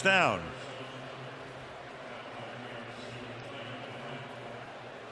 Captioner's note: pa announcement